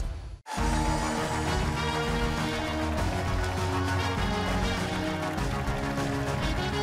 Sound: cheers and applause

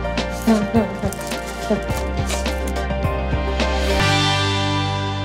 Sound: Sammi laughing; musical flourish

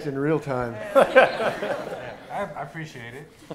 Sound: laughter

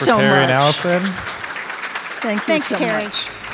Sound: applause

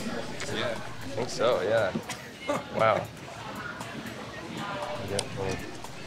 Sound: laughs

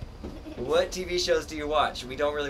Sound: laughs

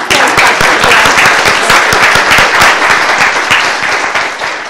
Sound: audience applauding

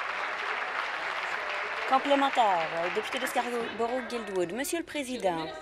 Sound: applause

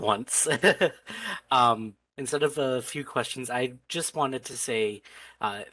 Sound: laughter

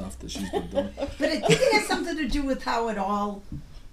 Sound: voiceover

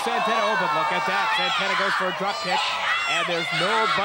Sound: wrestlers groaning

